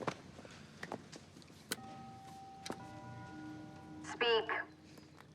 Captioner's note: doorbell rings